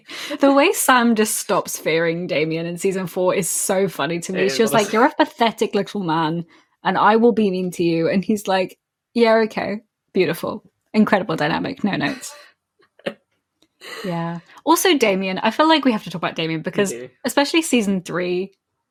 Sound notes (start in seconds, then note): 12.0 laughs